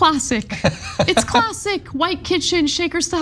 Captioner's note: laugh